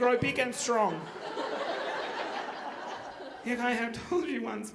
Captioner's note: audience laughing